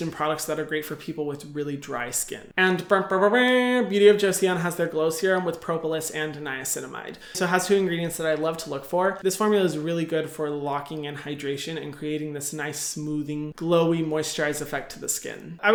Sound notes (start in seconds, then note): none